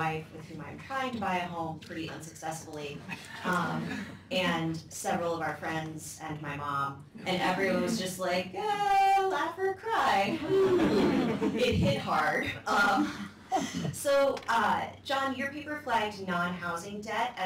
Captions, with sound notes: with whom I'm trying to buy a home pretty unsuccessfully. [LAUGHTER] And several of our friends and my mom, and everyone else was just like laugh or cry. [LAUGHTER] It hit hard. So Jon, your paper flagged nine housing debt